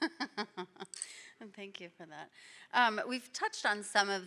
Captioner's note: laughing